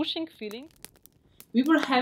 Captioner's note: sound of fire